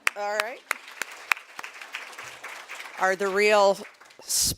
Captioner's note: applause